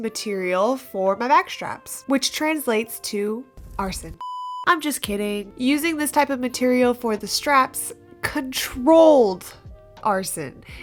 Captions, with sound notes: material for my bag straps! which translates to arson [fire crackles] I'm just kidding using this type of material for the straps CONTROLLED arson